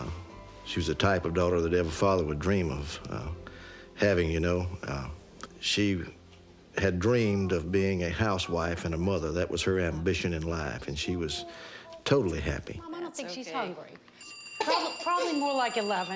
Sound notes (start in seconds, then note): 14.1 phone ringing